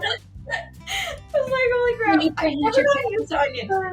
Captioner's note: laughs; laughs